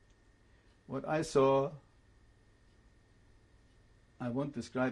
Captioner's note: pauses for 3 seconds